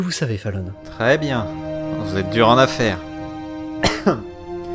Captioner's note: caughs